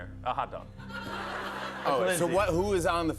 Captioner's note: laughter